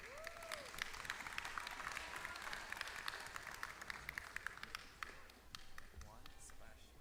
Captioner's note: applause